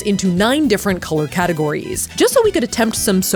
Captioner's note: none